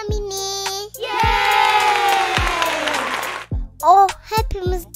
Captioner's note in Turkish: alkış